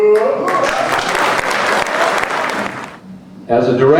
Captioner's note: crowd applauding